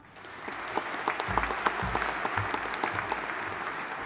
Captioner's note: audience applauding